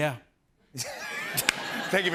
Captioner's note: laughter